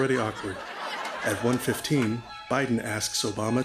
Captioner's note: laughter and applause